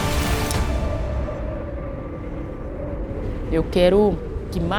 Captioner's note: music stops; wind blowing